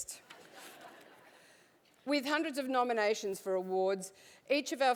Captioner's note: laugh